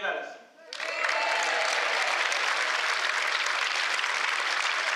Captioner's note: applause